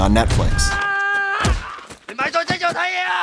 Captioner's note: screams